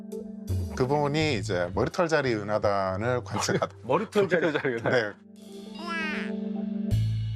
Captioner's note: failed to hold back laughter